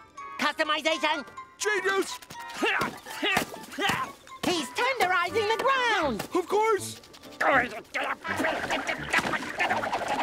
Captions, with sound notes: - Customization! - Genius! [grunting] - He's tenderizing the ground. - Of course. [grunting]